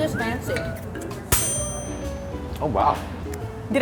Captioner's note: bell rings